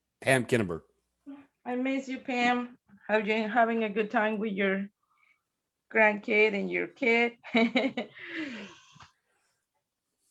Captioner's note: chuckles